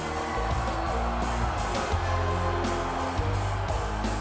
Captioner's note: audience cheering